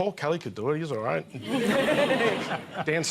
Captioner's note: laughter